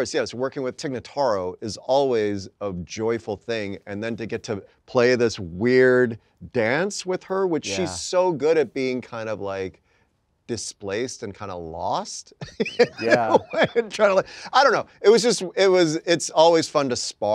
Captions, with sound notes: with Tig Notaro is always a joyful thing. And then to get to play this weird dance with her. - Yeah. - Which she's so good at being kind of like displaced and kinda lost. - Yeah. [Anthony laughing] Trying to like, I don't know. It was just, it's always fun to spar